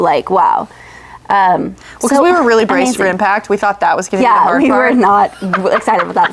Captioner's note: laughs